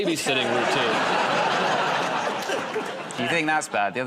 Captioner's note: laughter